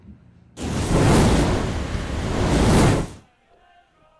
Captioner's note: sizzling fire sound